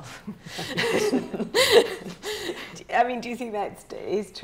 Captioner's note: laughing